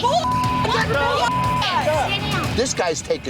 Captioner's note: yelling